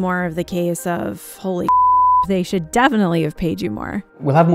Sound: beeps

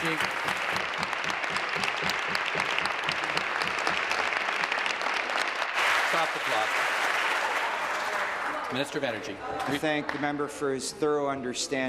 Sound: applause

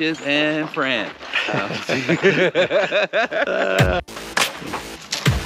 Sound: both laughing; upbeat music

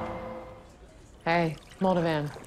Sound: liquid trickling

